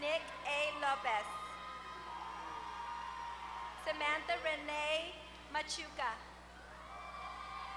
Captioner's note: applause